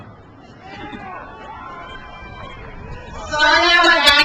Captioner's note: crowd cheers